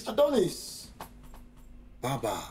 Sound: Baba patting chest

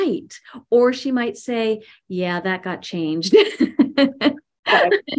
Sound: laughs

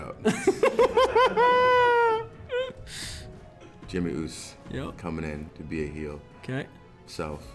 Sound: laugh

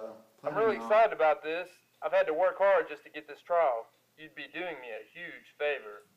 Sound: phone voice

